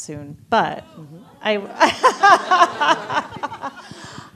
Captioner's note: laughs